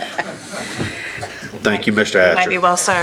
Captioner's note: laughter